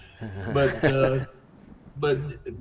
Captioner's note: laughs